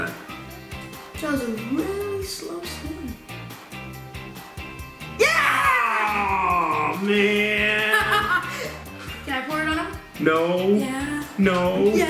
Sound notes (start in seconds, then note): 5.2 groans; 7.5 laughs